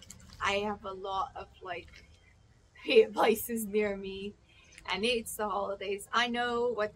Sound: laughs

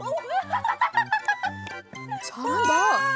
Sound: can't go forward from laughing

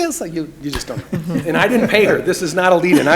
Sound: room laughs

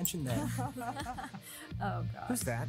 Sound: laughs

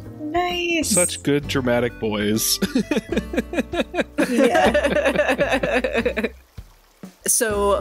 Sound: laughter

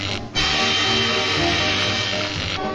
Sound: buzz

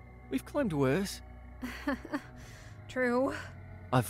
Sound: weak laugh

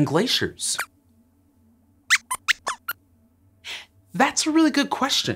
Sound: squeaks squeaks

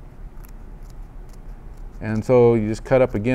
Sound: carapace crunching

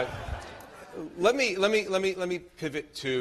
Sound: laughter

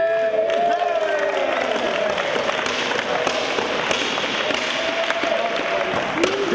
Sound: applause

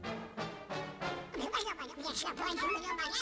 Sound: whispering

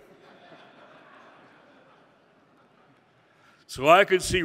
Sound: audience laughing

